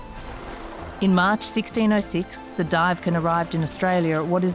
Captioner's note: bright music continues; waves splashing